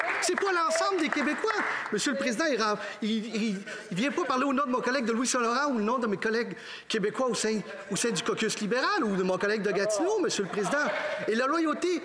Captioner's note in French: applaudissements